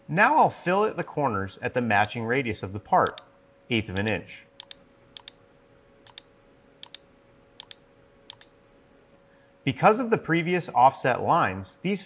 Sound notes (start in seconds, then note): 4.9 mouse clicking